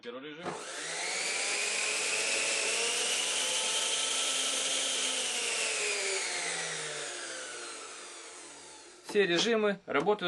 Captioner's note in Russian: слышен звук работы соковыжималки